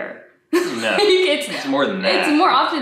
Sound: laughs

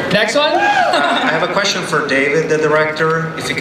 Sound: voiceover

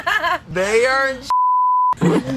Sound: beep

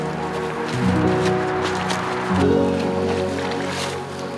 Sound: relaxed ambient music continuing; leaves underfoot crunching; water softly splashing

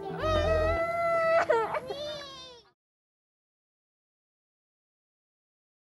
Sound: crying

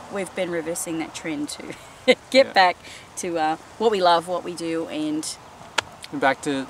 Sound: laughs

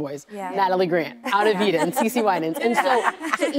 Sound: laughing

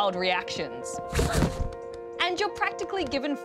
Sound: gasps

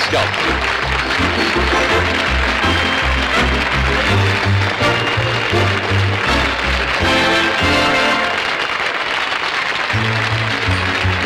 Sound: applause

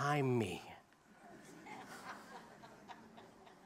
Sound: laughter

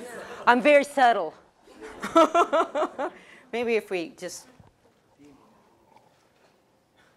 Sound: laugh

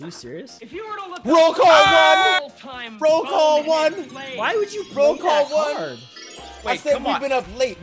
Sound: laugh

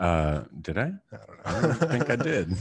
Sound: laughs

